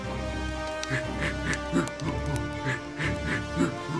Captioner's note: neanderthal panting